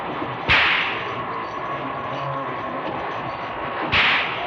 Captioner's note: whipping continues